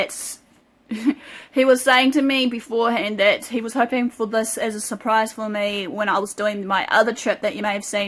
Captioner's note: light giggle